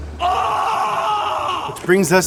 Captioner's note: screams